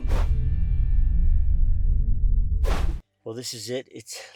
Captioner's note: logo swoosh